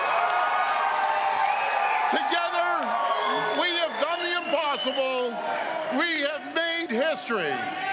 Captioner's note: cheering